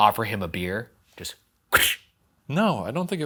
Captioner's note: imitates can hissing